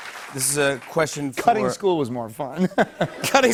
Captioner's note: laughter